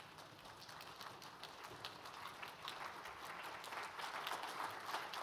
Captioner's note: everyone clapping